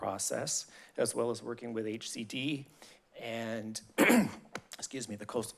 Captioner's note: clears throat